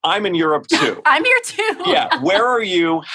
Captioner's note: laughing